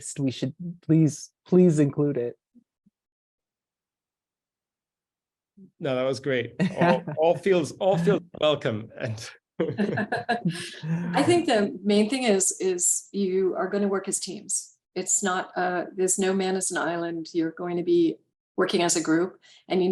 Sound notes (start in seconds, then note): 9.6 chuckling; 9.6 laughs